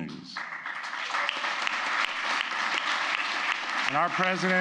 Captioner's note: applause